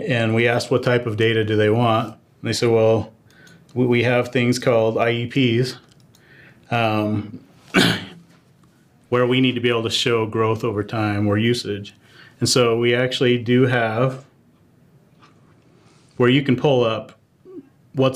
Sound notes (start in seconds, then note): 7.7 cough